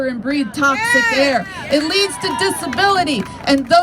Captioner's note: crowd